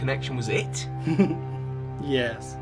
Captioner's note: laughs